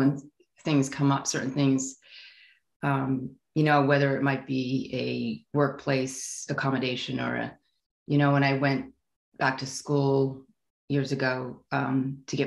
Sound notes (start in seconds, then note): none